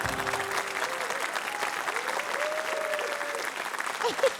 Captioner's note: applause